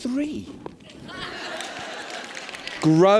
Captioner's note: laughter